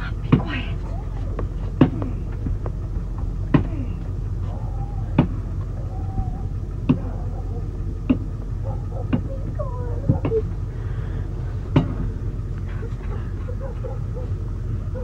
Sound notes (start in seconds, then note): 4.4 dogs barking; 5.1 bat slamming; 11.0 Chloie sobs